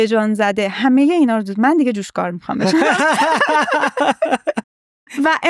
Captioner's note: laughs